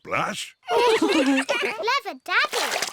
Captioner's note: all laugh